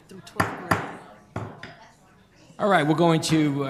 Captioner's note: gavel banging